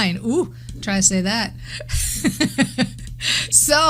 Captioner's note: laughs